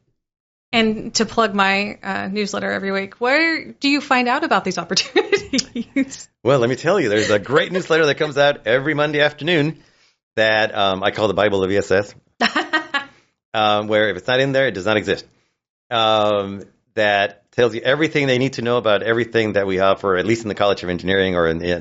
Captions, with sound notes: And to plug my newsletter every week, where do you find out about these -opportunities? [laughs] -Well, let me tell you, there's a great newsletter that comes out every Monday afternoon -that I call the Bible of ESS- -[laughs] ... where if it's not in there, it does not exist, that tells you everything they need to know about everything that we offer, at least in the College of Engineering or in the ESS.